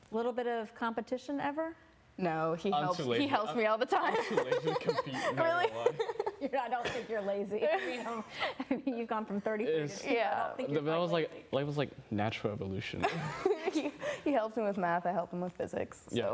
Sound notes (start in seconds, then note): 4.1 laughing